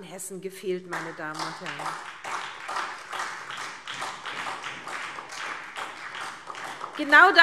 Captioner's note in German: Beifall SPD